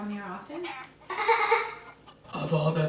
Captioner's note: laughs